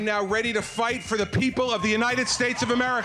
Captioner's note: audience cheering